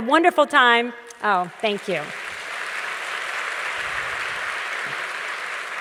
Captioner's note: audience claps